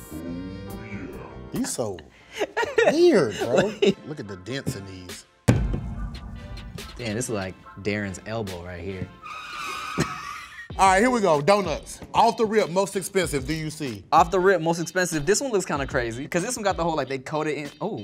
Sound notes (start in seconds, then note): 5.5 doughnut booming; 9.2 car screeching